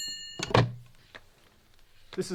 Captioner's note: sound of phone being answered